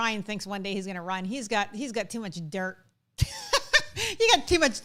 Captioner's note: laughs